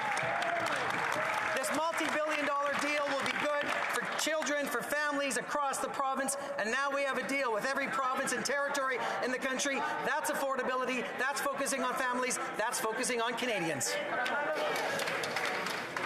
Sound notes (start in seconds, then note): 4.0 some Applause